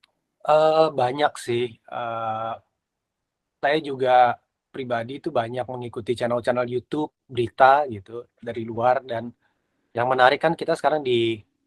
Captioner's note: non-english speech